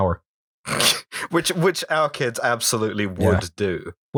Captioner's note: laughter